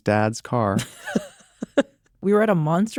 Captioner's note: laughter